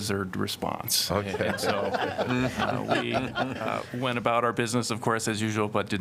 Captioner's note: laughter